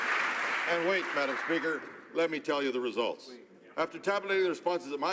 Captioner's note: some Applause